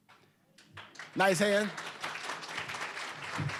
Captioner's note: applause